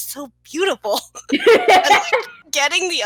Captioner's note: laughter